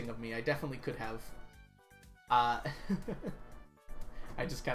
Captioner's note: laughs